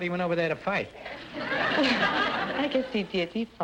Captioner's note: audience laughter